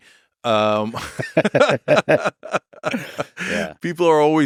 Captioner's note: both laughing